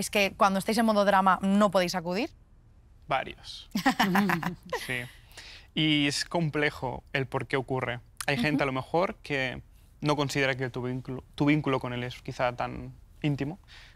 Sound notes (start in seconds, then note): 3.8 laughs